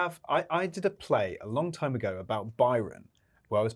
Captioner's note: none